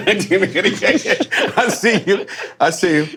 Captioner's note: men laughing